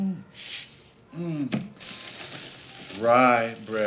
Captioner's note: sniffs